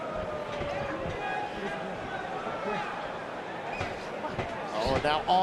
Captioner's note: crowd chatter